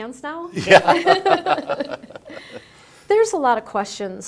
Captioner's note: laugh